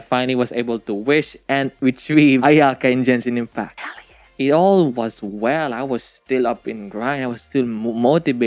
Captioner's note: whispers